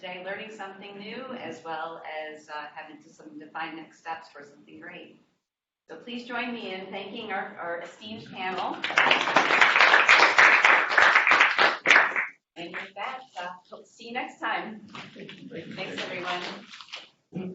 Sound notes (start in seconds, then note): 8.5 applause